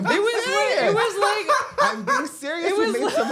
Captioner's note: cackling